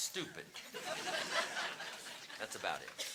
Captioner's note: audience laughing